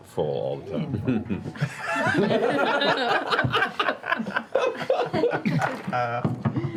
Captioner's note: laughter